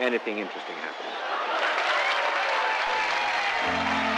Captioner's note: crowd cheers